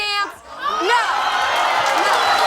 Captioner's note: audience cheers